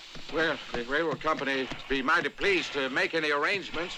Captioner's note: none